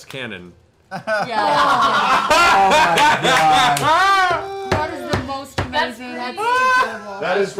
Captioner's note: laughter